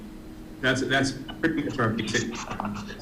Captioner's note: audio breaks up